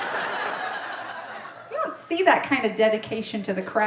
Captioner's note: audience laughing